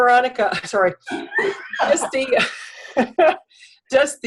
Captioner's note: laughter